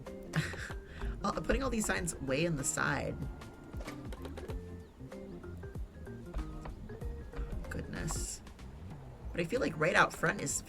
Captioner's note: laughs